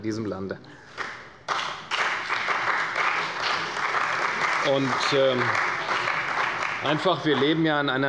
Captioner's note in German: Beifall bei der CDU und dem BÜNDNIS 90/DIE GRÜNEN